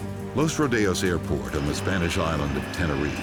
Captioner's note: voiceover